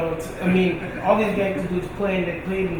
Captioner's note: laughing